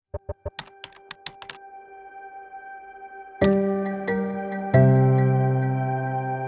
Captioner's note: keyboard keys clacking; mellow music